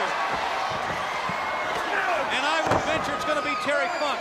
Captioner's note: crowd cheering